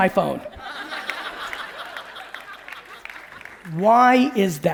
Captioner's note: audience laughing